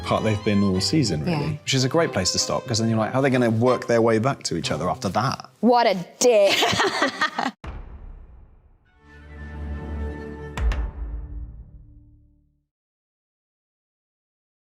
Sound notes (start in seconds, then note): 6.3 Hannah laughing